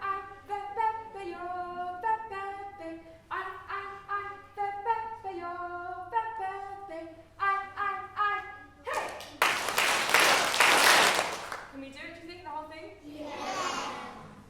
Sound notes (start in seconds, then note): 0.0 singing; 8.8 clapped rhythm